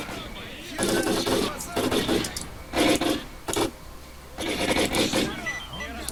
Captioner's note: Loud gun shots and stalkers yelling in Russian